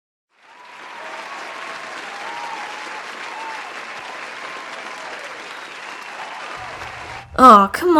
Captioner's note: crowd Cheering